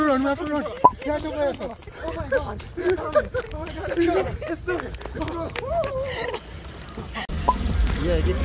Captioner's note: laughing